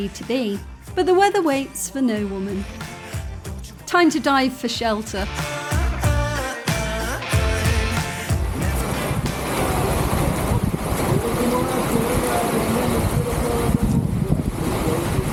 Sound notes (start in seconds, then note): 6.5 upbeat music; 11.0 heavy rain